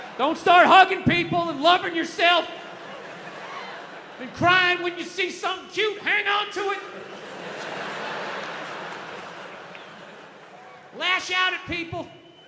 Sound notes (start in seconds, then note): 6.7 audience laughs